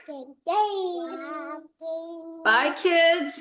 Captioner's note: baby babbling